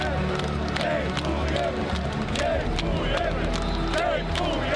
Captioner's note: cheering and chanting